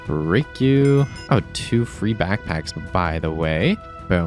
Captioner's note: none